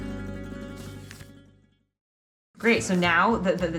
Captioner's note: page flipping